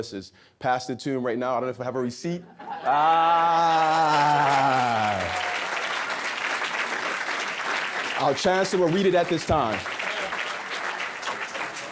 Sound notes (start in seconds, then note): 2.5 audience laughs; 5.3 audience clapping